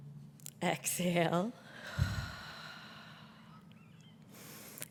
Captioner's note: exhales